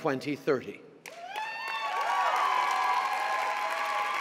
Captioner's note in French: Acclamations et applaudissements